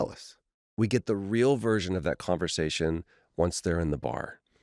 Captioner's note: none